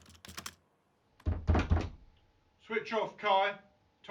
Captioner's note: knocking on door